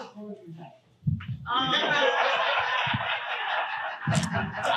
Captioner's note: audience laughing